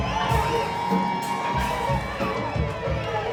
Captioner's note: cheering